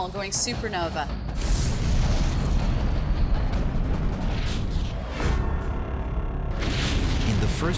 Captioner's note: explosion